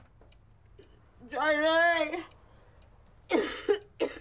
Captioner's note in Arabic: سعال